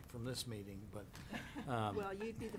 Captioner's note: people laughing